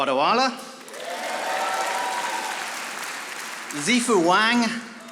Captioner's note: audience applauding